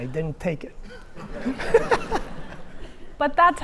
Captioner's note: laughing